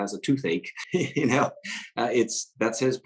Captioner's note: laughs